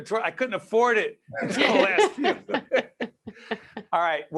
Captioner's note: laughing